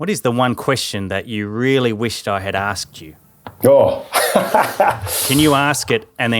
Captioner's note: laughing